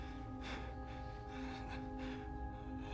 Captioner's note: breathing heavily